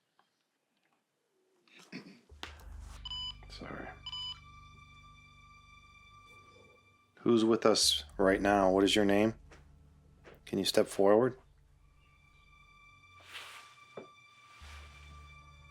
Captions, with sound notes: (machine buzzing stops) (beeping) - Sorry. Who's with us right now, what is your name? Can you step forward? (tense music)